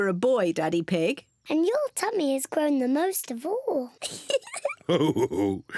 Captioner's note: laughs